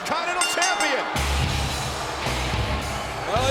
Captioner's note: bell rings; crowd boos